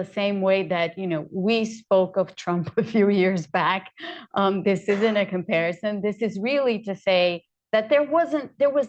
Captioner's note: laughs